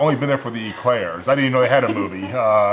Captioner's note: laughter